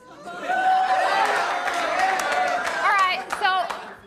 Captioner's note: cheering